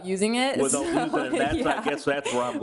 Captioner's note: laughter drowns out speaker